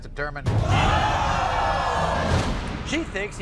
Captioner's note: audience oohs